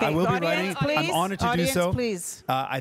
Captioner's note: crowd laughing